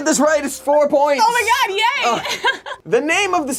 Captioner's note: laughs